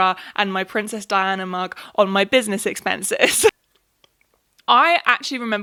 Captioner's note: laughs